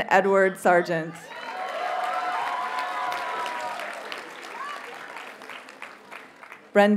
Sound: audience cheers and applauds

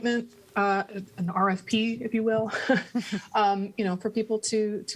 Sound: laughter

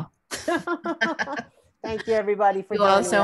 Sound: laughing

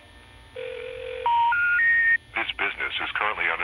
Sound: series of beeps

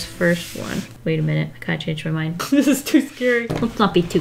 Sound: laughs

